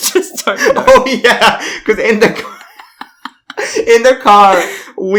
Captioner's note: laughs